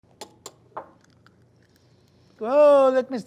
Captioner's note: egg cracks